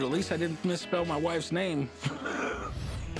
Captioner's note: laughs